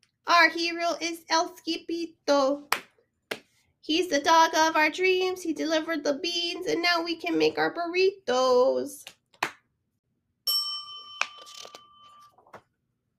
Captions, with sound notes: Our Hero is El Skippito. (clap clap) he's the dog of our dreams he delivered the beans and now we can make our burritos (clap clap) ( bell dings )